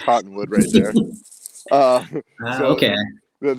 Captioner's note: chuckles